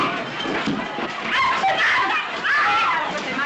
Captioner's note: fuss and shouts